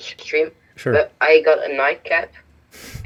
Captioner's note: laughs